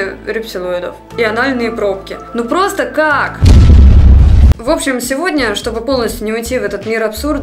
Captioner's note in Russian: взрыв